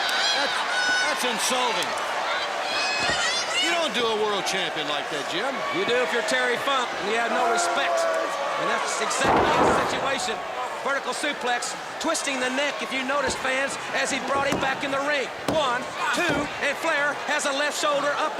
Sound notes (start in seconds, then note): 2.8 crowd chatter